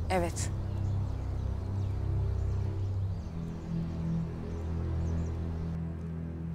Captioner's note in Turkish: Kuş cıvıltıları